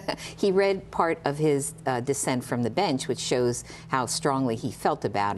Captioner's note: laughter